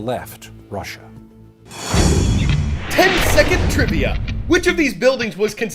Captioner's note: voice-over